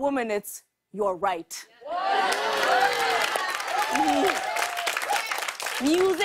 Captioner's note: cheers and applause